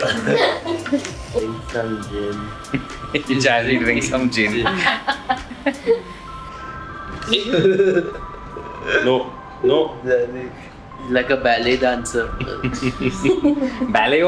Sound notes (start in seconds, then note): 0.0 laughter; 4.6 laughter; 6.8 laughs